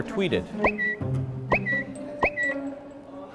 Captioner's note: tweeting